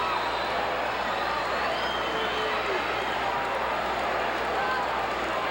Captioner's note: audience cheering continues